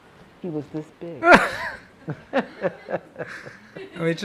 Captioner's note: everyone laughing